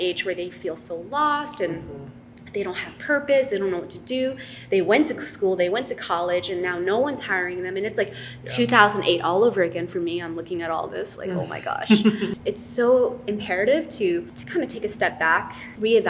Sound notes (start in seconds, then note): 11.4 laughs